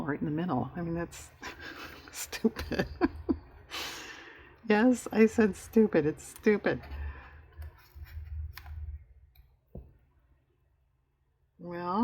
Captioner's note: laughs